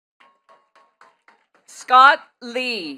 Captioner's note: attendees clapping